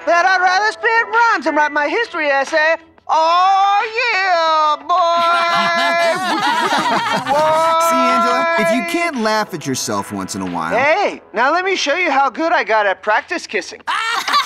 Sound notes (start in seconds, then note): 5.1 laughter